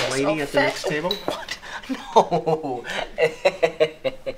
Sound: chuckles

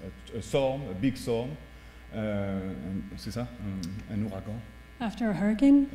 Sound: speaking french

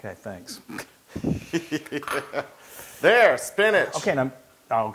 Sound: laugh

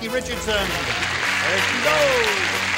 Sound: applause

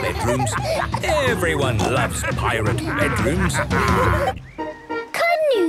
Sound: laughter

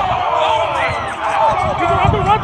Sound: shouting

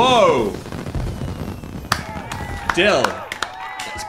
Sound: firecrackers going off; both clapping

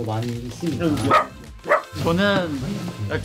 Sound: puppy barks

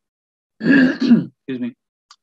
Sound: clears throat

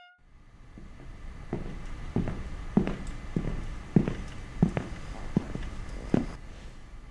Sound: footsteps

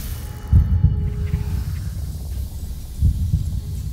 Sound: snake hissing

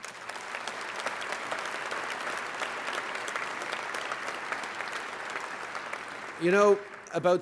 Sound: applause

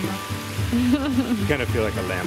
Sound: laughing

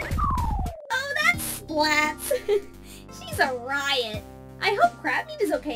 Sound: laughs

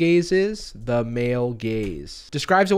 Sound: typing

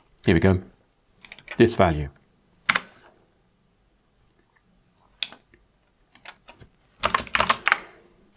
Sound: blank Audio

